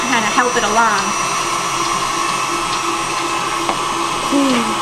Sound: mixing continues

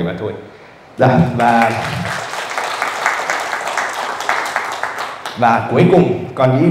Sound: audience clapping

